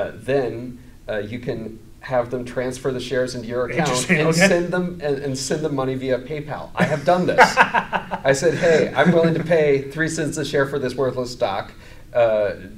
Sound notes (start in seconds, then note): 6.8 laughs